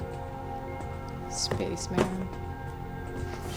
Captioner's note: thuds